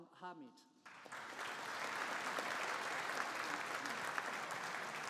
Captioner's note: audience applauding